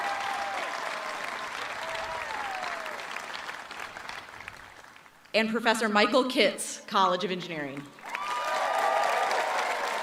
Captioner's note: cheering and applause